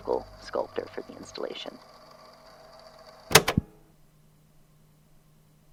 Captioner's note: click